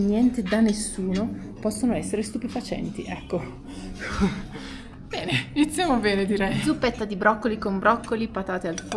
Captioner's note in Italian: risate